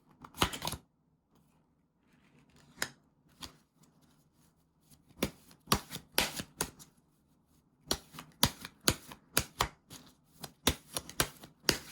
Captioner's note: drawing cards